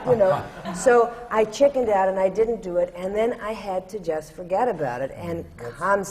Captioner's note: laughter